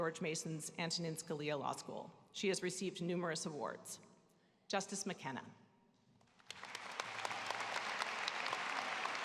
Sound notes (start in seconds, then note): 4.2 applause